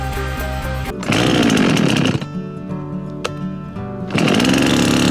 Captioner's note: chainsaw motor growling